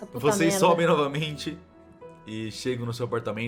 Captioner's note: laughing